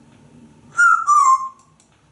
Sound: whistle

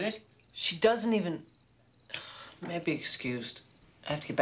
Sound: sighs

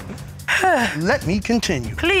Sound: laughs; sighs

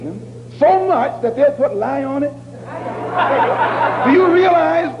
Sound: laughter

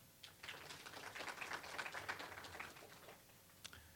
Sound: applause

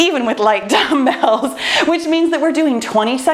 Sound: laughs

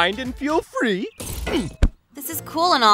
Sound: body thudding

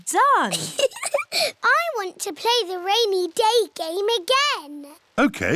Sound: laughs

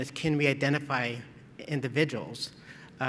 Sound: none

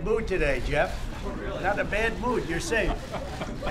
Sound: laughter

